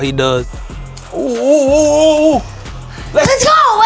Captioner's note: both cheer